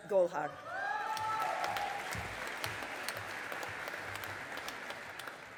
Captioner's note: audience applauding